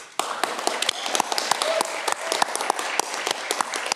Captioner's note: audience clapping